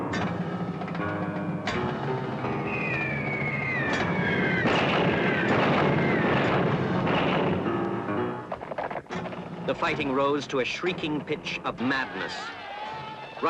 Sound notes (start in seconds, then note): 2.5 shells whistling; 3.4 explosions